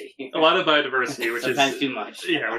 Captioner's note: laughing